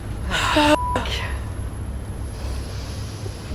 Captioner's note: beep